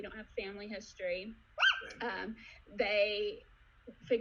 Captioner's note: squeals